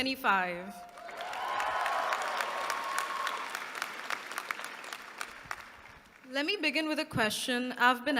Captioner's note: applause